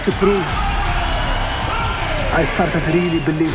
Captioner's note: cheering and applause